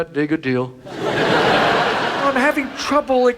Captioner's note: audience laughs